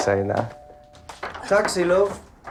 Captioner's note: door bell rings